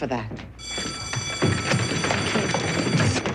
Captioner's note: class bell rings